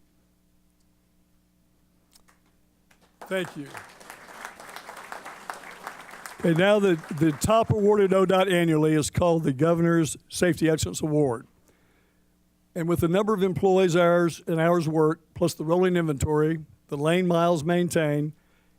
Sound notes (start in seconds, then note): 2.9 applause